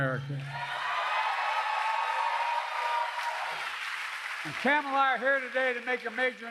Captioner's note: applause